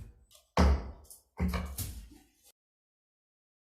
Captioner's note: gavel bangs